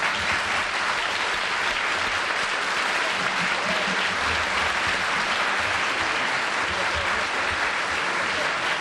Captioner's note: applause